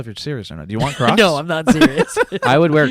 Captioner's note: laughs